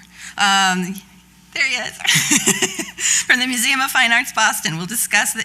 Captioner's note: laughs